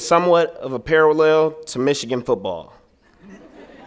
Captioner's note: laughter